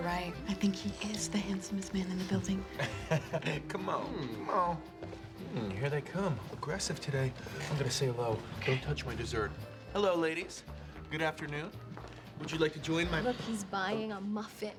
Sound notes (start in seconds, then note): 2.0 laughs